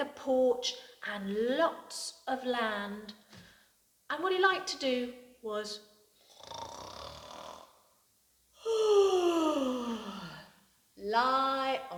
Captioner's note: snores